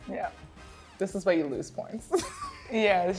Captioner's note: laughs